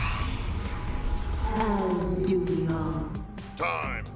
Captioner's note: eldritch female voice